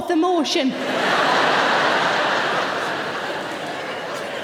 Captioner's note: audience laughing